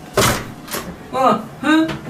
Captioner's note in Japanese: ドアを開ける音